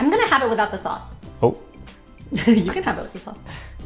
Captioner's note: laughs